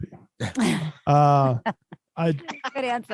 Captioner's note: laughter